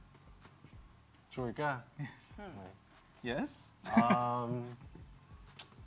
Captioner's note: chuckles